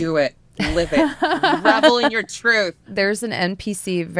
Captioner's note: laughter